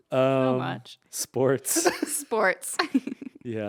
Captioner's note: laughing